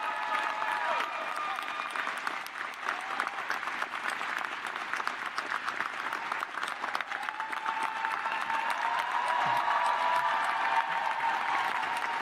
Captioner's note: cheers and applause